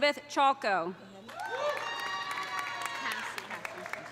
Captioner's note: audience applauding; audience cheering